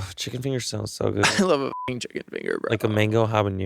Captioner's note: beeping